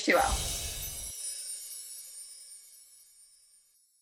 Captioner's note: bells chiming